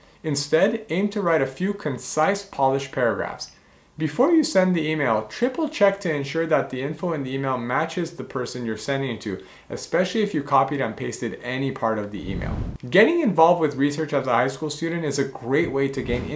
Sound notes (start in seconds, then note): 12.2 air whooshing; 16.0 air whooshing